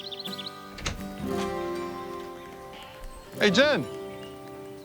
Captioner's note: birds chirping; chuckles